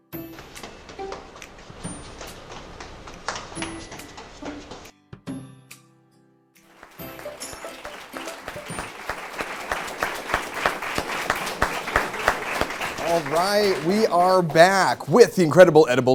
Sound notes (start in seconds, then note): 1.7 applause